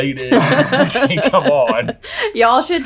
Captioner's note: all laughing